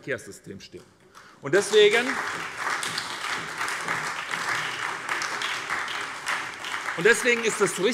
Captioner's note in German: Beifall bei der SPD und bei Abgeordneten der FDP